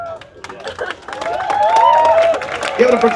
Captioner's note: applause